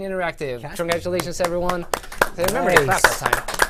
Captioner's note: applause